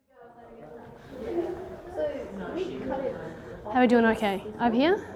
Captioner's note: students chattering